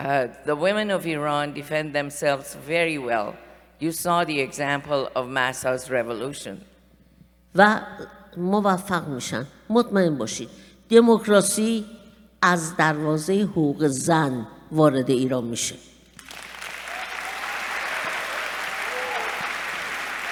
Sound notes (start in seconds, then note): 7.5 speaking persian; 16.1 applause